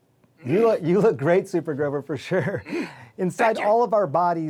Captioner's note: chuckling